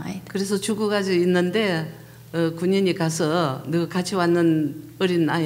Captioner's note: speaking foreign language